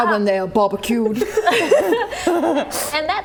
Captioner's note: laughing